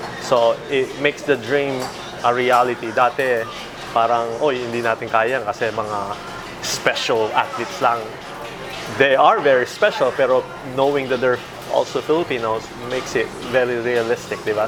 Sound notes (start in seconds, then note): 4.2 speaking in foreign language